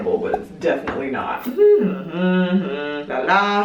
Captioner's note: humming